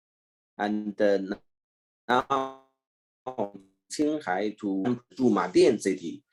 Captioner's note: murmuring